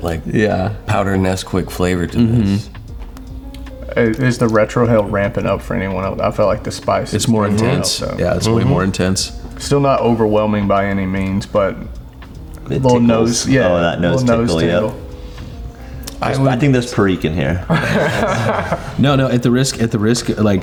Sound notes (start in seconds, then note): 17.6 laughs